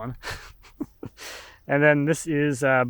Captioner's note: laughs